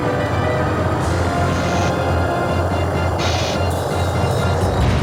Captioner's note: crackling continues